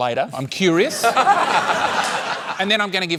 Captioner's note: laughter